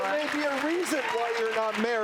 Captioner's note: audience applauds